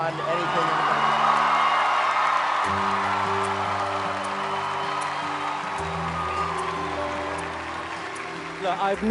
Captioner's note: crowd Cheers